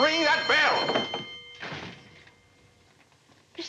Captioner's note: ringing stops